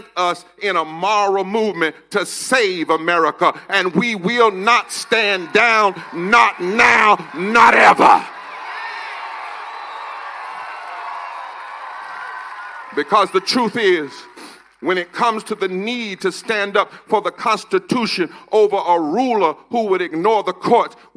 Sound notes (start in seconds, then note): 16.1 cheers and applause